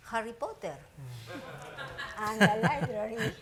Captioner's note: audience laughing